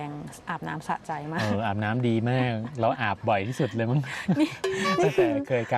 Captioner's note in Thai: เสียงหัวเราะ